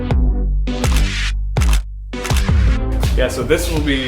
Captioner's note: shutter clicks